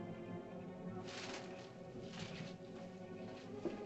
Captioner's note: ominous music; bushes rustle; ominous music